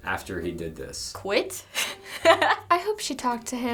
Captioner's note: laughs